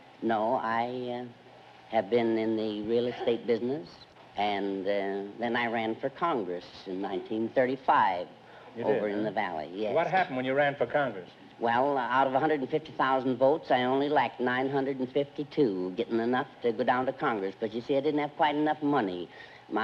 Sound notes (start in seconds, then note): none